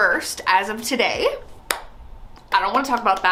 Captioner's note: claps hands